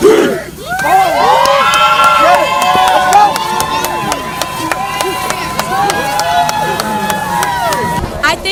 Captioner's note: crowd Cheers